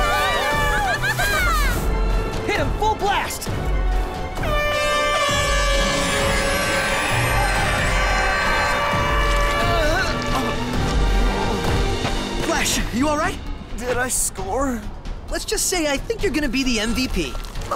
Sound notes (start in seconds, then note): 0.0 cheering; 4.4 air horns wailing; 9.4 groans